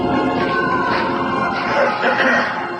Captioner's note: clears throat